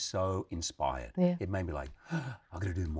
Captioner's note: gasps